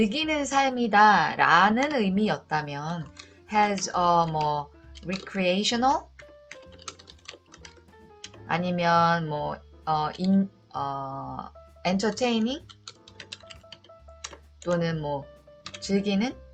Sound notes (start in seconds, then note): 4.7 typing